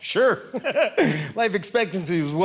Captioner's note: audience laughing